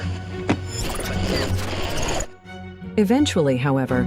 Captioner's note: static whirring